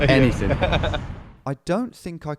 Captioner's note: laughs